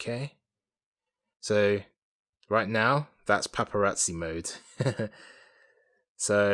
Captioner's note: chuckles